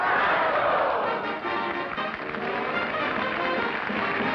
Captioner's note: applause